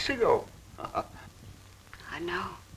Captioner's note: chuckling